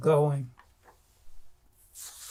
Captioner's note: pauses 10 seconds